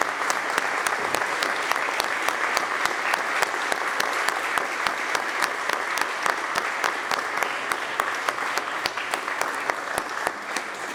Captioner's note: applause